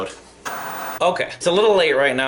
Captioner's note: static buzzing